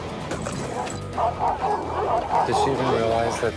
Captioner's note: dogs barking